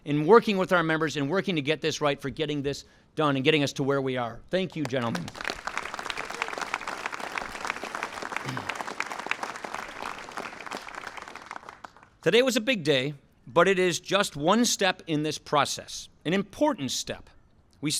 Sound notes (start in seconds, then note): 5.3 applause